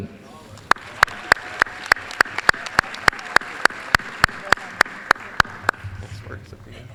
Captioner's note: applause